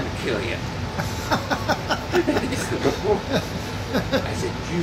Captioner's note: laughing